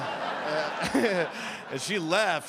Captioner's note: audience laughing